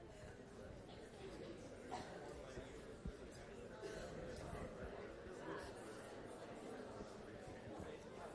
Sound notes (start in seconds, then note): 0.8 classroom chatter